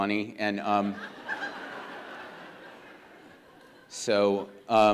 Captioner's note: audience laughs